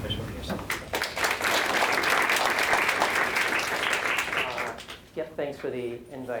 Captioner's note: applause